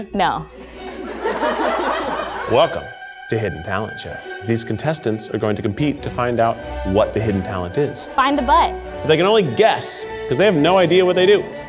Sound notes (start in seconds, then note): 0.6 audience laughs